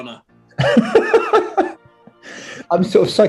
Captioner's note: laughing